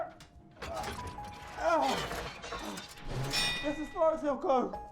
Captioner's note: grunting